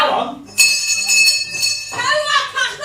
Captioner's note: bell ringing